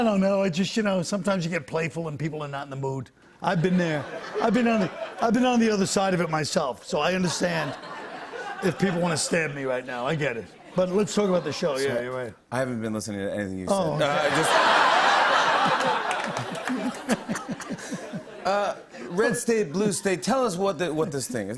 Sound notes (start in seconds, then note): 15.6 laughter